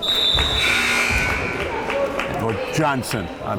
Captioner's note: timer buzzes